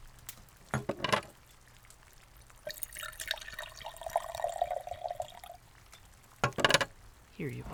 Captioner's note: liquid being poured, glass being served